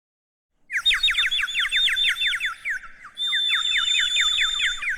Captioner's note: birds chirping